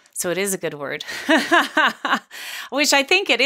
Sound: laughing

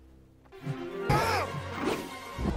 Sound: grunt of pain

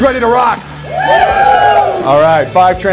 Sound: audience hooting

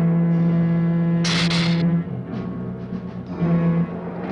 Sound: hissing

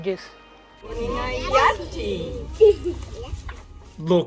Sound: foreign Language

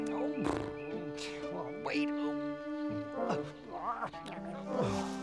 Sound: struggling noises

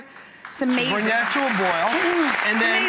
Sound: audience clapping

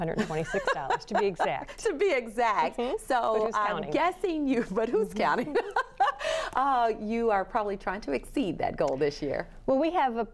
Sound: laughter

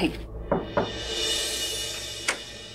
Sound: door knocking; door opens

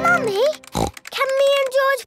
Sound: snorts

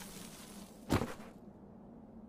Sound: thud

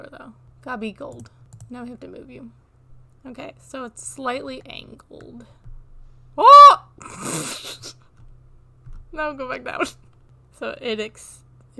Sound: laughter

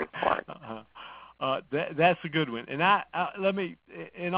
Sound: laughs

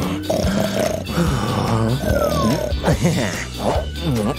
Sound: snoring

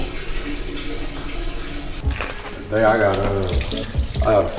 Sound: urinating heavily

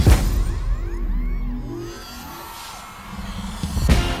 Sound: audience cheering

